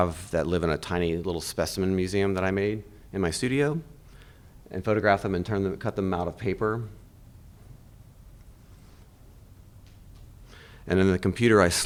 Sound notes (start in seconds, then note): none